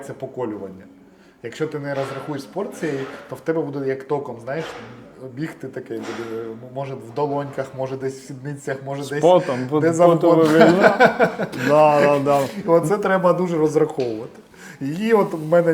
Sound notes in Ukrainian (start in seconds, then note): 9.2 сміх